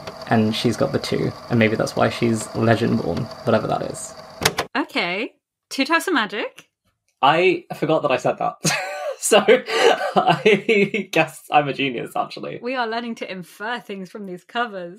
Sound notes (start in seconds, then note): 2.2 tape recorder clicks off; 8.6 laughing